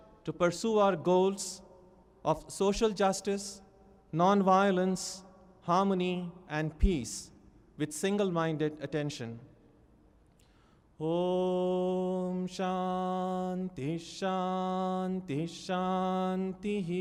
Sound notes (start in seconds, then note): 11.0 reciting in sanskrit